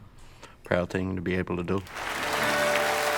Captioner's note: cheering and applauding